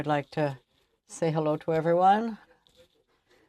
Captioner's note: speaking french